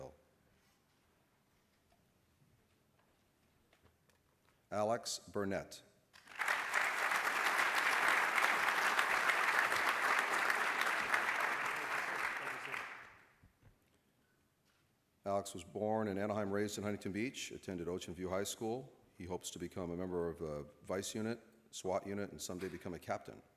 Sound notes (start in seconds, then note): 6.1 applause